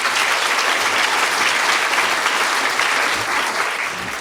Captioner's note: applause